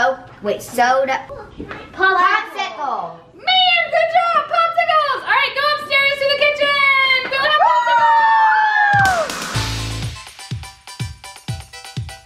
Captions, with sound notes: Popsicle. - Man, good job. Popsicles. All right, go upstairs to the kitchen! We'll have Popsicles. (cheering) (upbeat music)